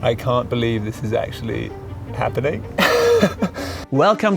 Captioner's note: laughs